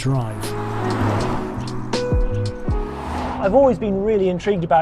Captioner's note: car whooshes